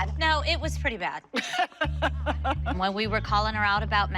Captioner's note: laughing